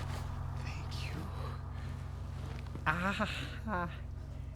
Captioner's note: groans